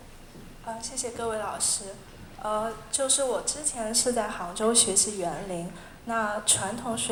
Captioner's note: Mandarin